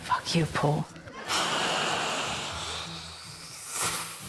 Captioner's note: exhales loudly